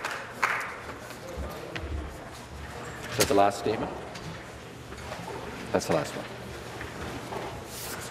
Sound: applause

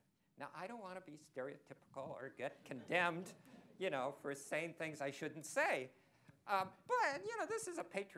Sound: laughter

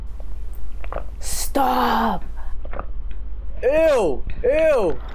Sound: hand gulping loudly

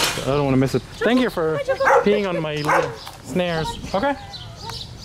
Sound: barks

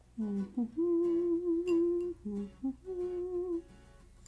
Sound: humming

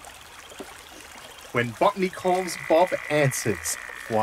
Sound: A frog croaks loudly

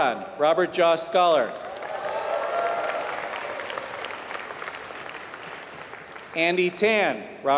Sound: applause

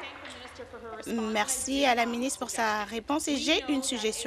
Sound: applause

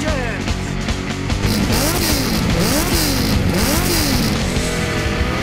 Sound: revving engine

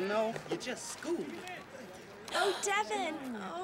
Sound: gasps

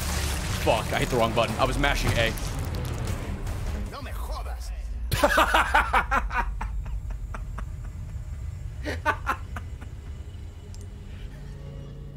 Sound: laughs

